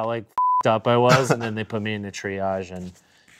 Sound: beep

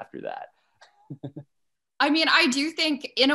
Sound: laughs

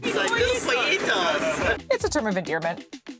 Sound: speaking foreign language

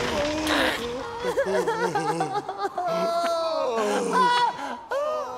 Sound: screaming; crying

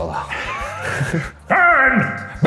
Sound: laughing

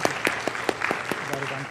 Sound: applause

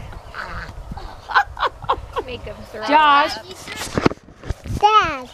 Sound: woman laughs

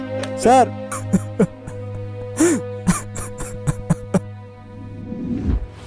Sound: crying

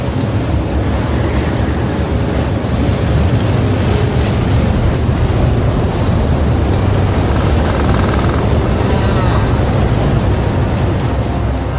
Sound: heavy wind

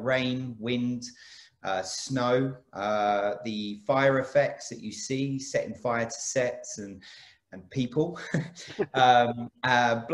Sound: laughs

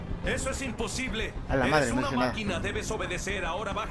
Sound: mexican slang

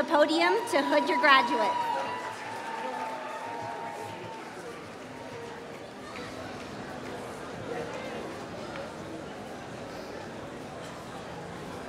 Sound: applause

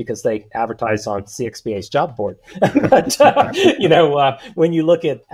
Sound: laughs

